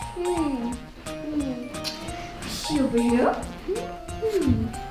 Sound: none

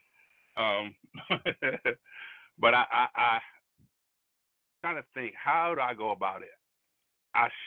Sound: laughs

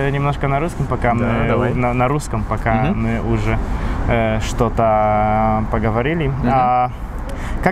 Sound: in Polish

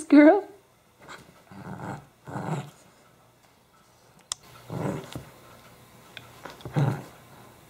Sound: playful growls

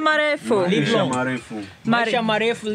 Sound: Swahili

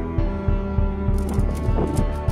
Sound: wind Blows

